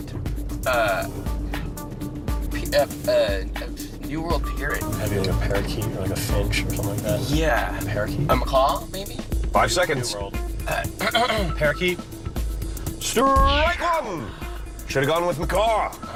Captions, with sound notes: AND SCARLET ARE THREE VARIETIES OF WHAT NEW WORLD PARROT? UH... [ STUTTERING ] NEW WORLD PARROT? MAYBE A PARAKEET OR THE FINCH OR SOMETHING LIKE THAT. YEAH. A MACAW MAYBE? FIVE SECONDS. [ CLEARS THROAT ] PARAKEET? STRIKE ONE!